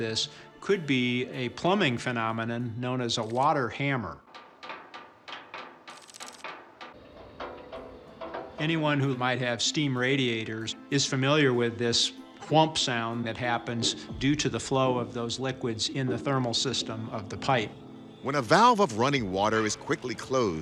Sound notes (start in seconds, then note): 4.0 water hammer thumping